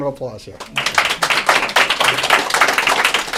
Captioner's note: applause